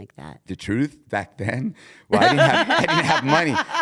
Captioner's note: laugh